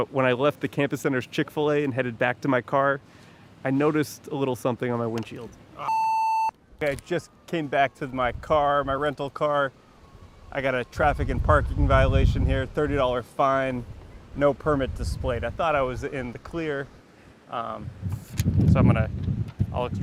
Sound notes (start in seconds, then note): 5.8 beep